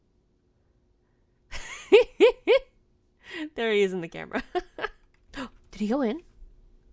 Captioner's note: laughing